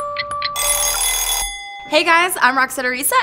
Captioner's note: alarm ringing